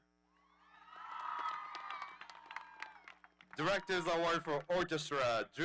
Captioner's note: audience cheering